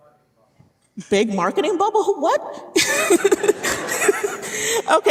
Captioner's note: laughing